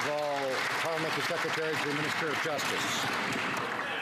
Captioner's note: some Applause